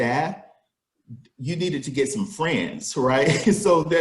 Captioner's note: laughs